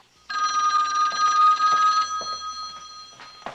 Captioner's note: telephone rings